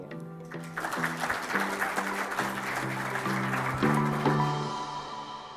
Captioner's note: audience applauding